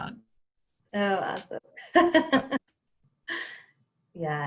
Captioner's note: laughs